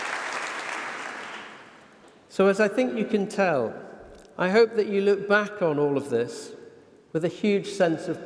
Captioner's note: applause